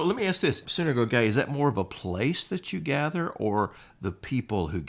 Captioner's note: speaks Greek